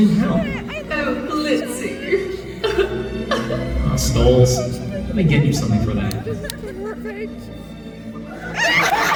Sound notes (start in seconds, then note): 2.5 joyful crying; 8.6 audience losing their collective shit